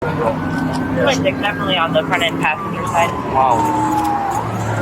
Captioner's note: radio chatter